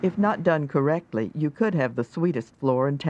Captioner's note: voiceover